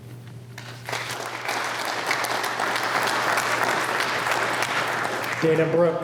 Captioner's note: applause